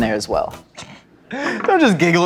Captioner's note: chuckling